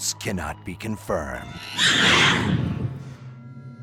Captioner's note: monkey shrieks